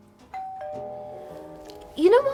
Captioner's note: doorbell rings